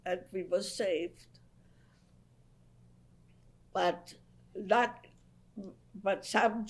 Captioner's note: pauses for 3 seconds